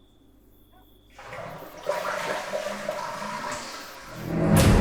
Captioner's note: toilet flushes; dramatic musical score